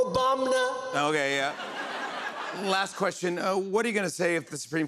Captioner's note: laughter